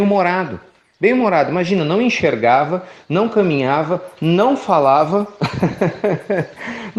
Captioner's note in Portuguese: Risos